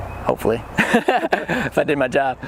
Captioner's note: laughs